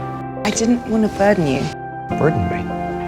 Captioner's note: voiceover